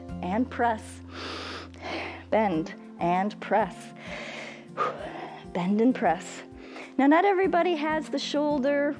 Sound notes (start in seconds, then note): 1.1 inhales and exhales; 4.1 exhales